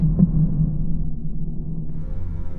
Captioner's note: boom; ominous music starts